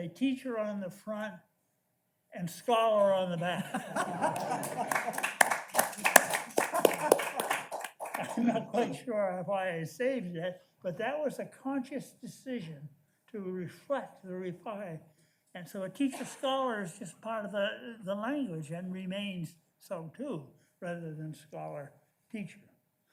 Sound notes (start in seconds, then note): 3.6 audience laughs